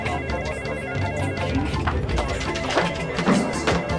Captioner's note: frantic music; people chattering; frantic music